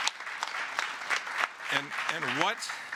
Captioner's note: applause